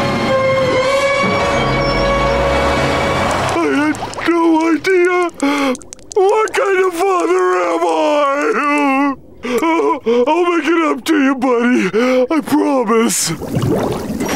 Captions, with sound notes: I had no idea! What kind of father am I?! [crying] I'll make it up to you, buddy. I promise.